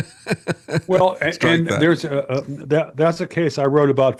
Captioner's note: laughing